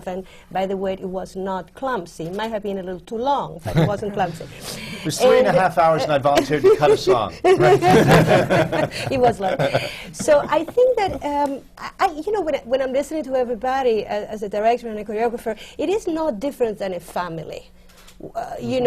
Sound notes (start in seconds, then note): 7.4 laughter